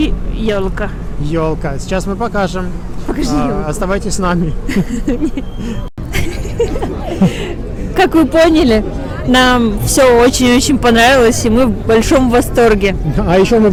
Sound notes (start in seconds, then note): 6.0 laugh